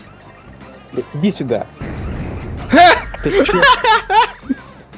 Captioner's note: laugh